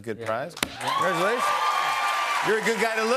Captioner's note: cheers and applause